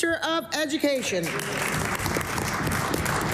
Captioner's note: some Applause